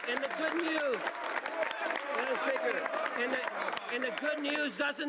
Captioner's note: cheering and Applause